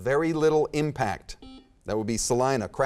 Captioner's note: beeping